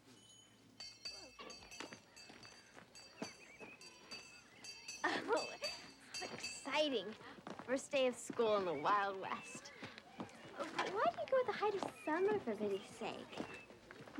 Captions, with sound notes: (bell clanging) - Oh, it's so exciting. First day of school in the Wild West. But why do you go the height of summer, for pity's sake?